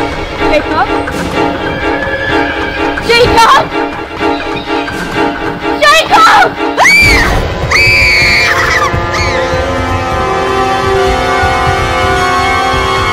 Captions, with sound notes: - Jacob? Jacob! Jacob! (screaming) (dark, ominous music)